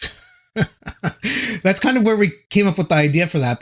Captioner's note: laughing